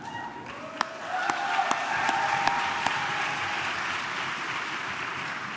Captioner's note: audience clapping and cheering